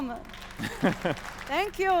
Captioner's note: applause; laughter